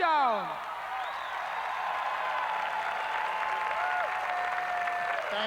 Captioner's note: crowd cheering